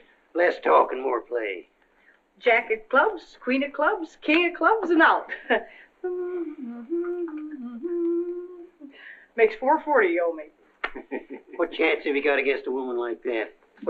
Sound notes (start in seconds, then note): 6.0 humming; 10.8 chuckles